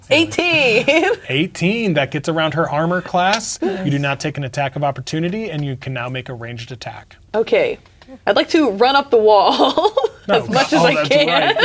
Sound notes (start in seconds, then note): 0.0 laughs; 10.2 laughing